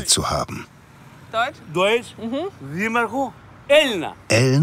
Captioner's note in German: Er spricht griechisch